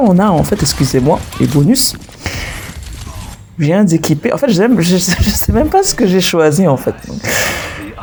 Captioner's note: laughs